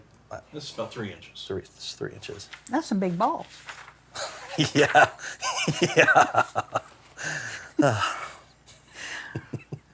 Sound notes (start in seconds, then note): 4.2 laughing